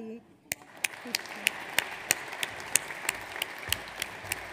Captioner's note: audience applauds